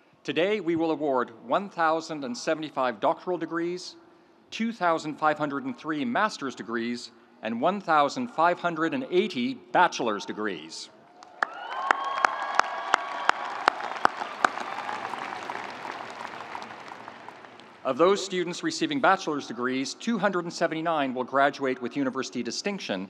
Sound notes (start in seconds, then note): 11.1 audience cheering; 11.1 audience applauding